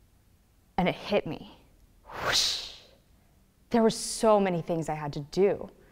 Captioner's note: whoosh